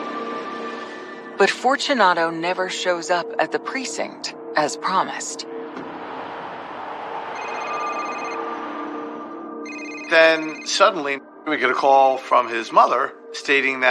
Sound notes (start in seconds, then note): 9.6 phone ringing